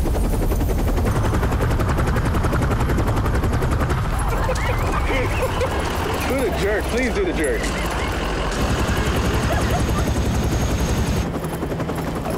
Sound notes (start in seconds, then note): 4.1 laughter